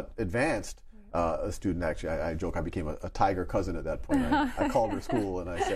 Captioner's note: laughs